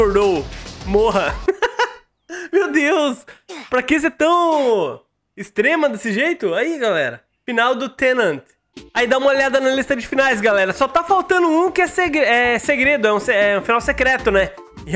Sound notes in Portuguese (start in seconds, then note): 1.3 risos